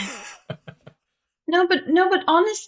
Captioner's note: laughs